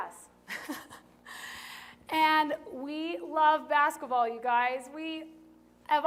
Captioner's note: laughter